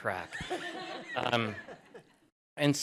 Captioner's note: laughter